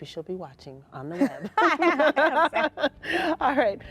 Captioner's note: laughing